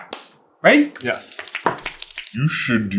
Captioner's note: thwlpthwlpthwlpthwlpthwlpthwlpthwlpthwlpthwlpthwlp